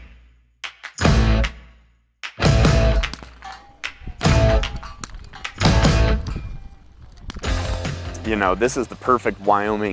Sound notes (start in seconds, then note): 2.8 rifle shots pinging